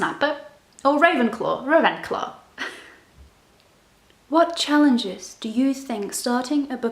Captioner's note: other random German sounds